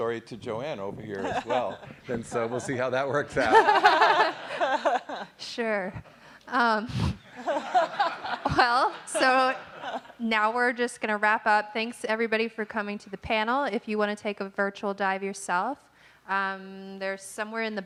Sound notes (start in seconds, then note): 3.3 audience laughing